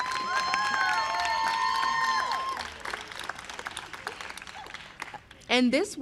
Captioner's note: applause